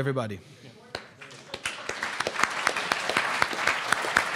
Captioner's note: applause